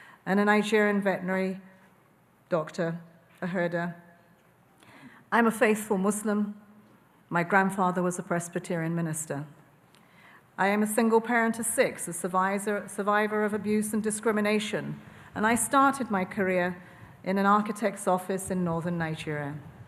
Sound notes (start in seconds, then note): none